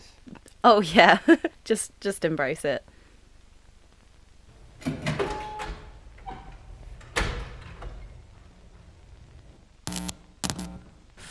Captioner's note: laughs; door Opens & Closes